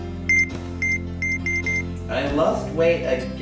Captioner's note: scale beeps